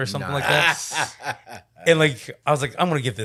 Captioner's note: laughing